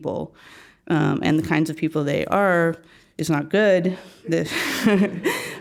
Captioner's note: laugh